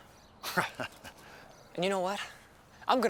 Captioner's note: Bill chuckling